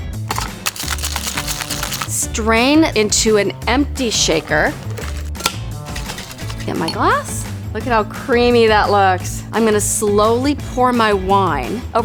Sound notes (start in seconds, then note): 0.2 liquid sloshing; 4.1 liquid sloshing; 4.2 metal clanking